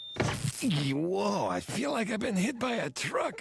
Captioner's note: thwack